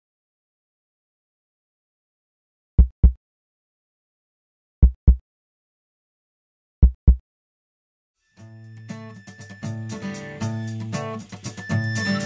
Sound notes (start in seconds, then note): 0.0 heartbeat